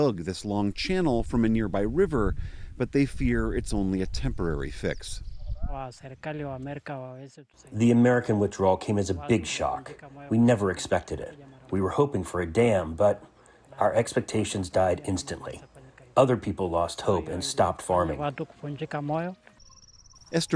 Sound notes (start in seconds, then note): 8.1 through translator